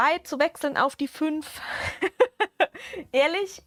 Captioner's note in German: Gelächter